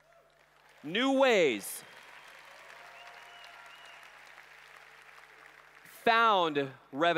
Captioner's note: applause